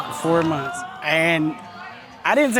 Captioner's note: audience exclaiming